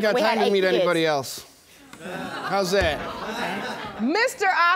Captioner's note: audience exclaiming